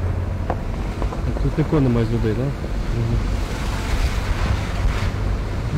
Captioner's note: indistinct conversation